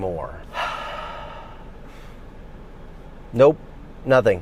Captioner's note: breathes deeply